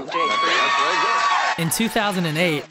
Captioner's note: audience cheering